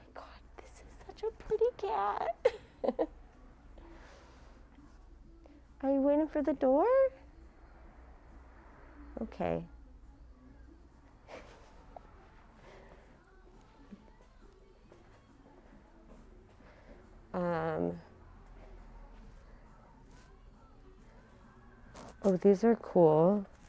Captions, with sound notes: Oh my god! This is such a pretty cat. (chuckles) Are you waiting for the door? Okay. (people chattering distantly) Hmm, oh these are cool.